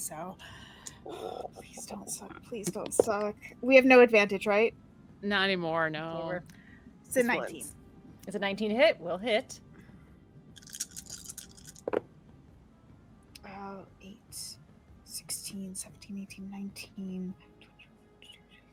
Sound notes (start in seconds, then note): 2.7 dice thumping; 10.6 dice rattling